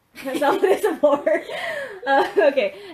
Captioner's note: laughing